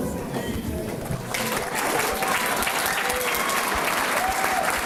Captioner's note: applause